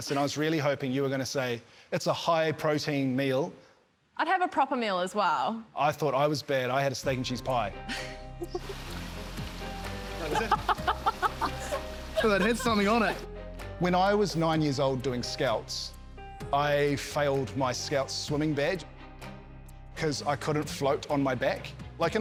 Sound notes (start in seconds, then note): 7.9 giggles; 12.1 laughs